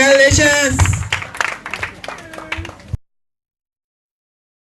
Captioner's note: applause